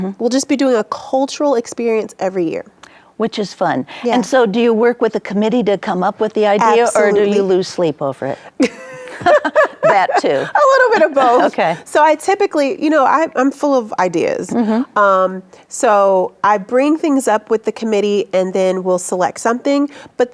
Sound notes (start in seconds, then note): 8.6 both laughing